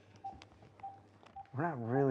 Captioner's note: dialing on phone